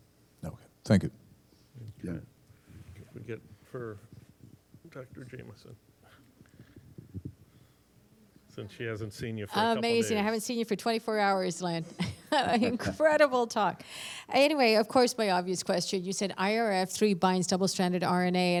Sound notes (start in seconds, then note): 11.8 laughter